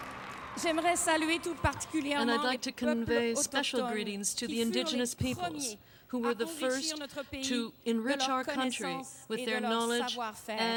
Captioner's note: applause